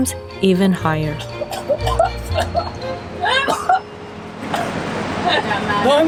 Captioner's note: coughs